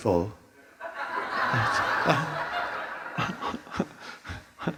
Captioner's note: audience laughing